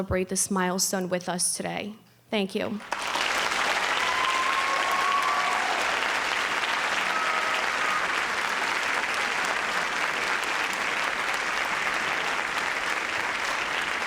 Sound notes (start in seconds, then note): 2.8 audience applauding